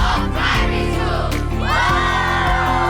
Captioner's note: cheering